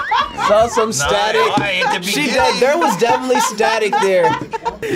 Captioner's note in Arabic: تضحك